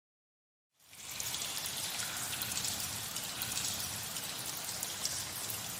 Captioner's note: rain